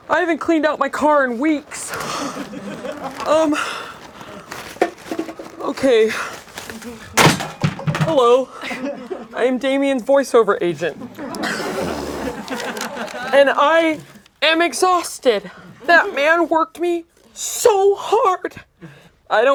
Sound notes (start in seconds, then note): 6.3 clatters; 10.8 laughing